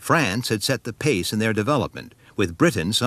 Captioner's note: none